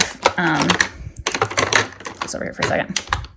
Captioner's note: items clicking